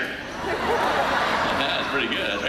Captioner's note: audience laughing